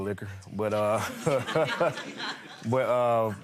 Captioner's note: audience laughing